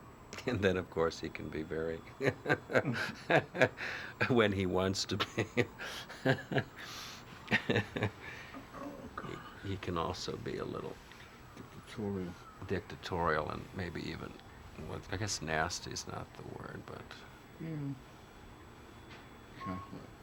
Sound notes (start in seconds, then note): 2.1 laughs; 6.8 sniffs; 7.5 laughs